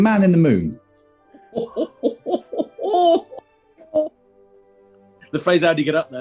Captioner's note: chortling